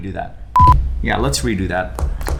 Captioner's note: beep